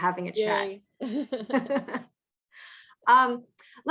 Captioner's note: both laugh